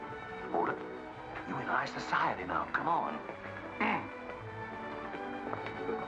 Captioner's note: clears throat